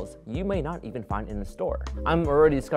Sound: none

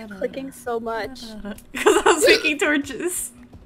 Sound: laughs

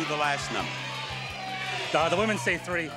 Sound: audience shouting

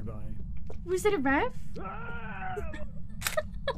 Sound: screams painful death; laughing

